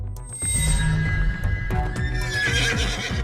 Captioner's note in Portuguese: Sons de cavalo